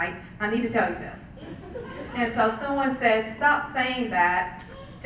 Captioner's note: laugh